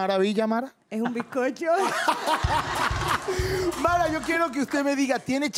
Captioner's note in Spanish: Ríe